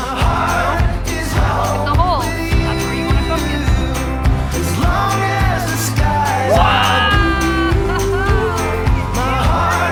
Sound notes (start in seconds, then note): 6.7 people cheering